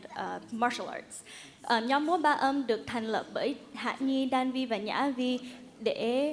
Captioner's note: speaks in Vietnamese